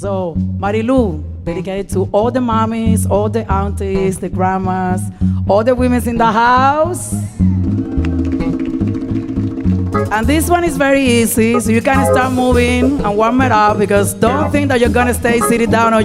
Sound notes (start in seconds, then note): 7.6 audience cheering